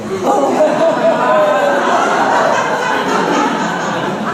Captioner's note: laughter